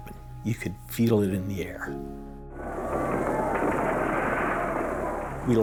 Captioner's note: sounds of explosions